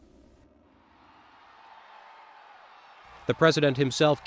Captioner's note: crowd cheers